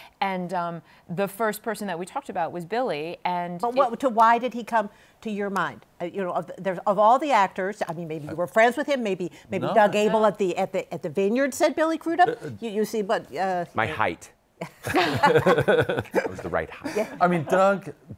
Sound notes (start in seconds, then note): 14.6 laughter